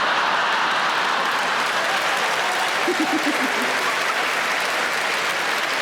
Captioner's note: audience laughing; audience applauding